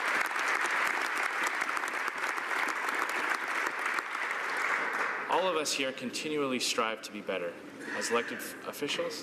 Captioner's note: applause